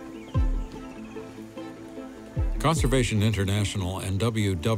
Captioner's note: animals calling